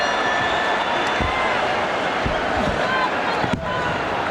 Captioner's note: audience cheering